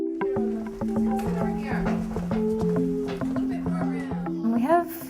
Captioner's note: classroom chatter